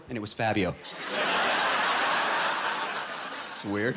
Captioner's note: laughter